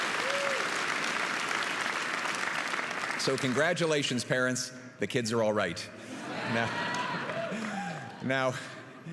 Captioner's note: applause and cheering